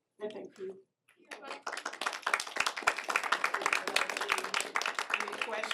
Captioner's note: applause